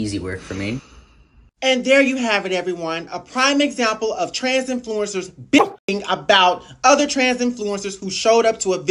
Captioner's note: bark